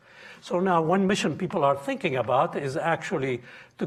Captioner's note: none